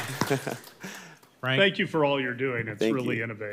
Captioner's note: applause